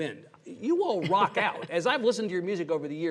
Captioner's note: laughs